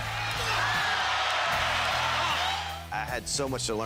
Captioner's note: crowd cheers